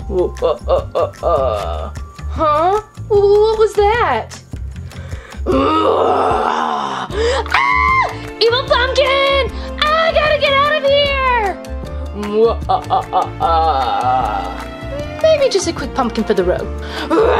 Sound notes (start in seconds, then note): 0.3 Pumpkin Laughing; 5.5 Pumpkin Growling; 12.4 pumpkin Cackling; 17.2 Pumpkin Yells